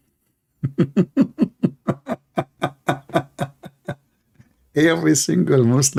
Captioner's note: Ketawa